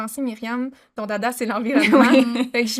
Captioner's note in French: Rires